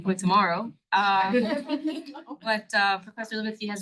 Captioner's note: all laughing